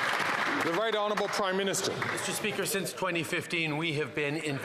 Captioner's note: some Applause